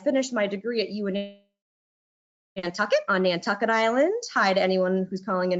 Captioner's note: audio glitches